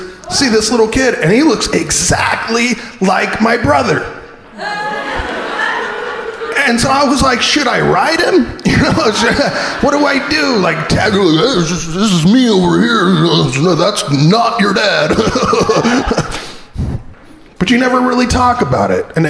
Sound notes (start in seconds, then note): 4.9 crowd laughing